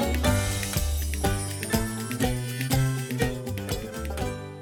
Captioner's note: logo chiming